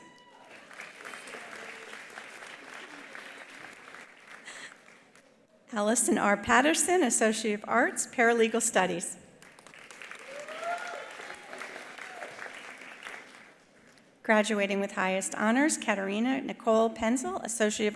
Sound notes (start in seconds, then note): 0.0 attendees cheering; 0.0 attendees applauding; 9.4 attendees applauding; 10.1 attendees cheering